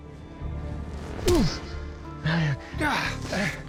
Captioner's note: punch